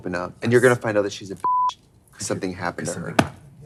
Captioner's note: beep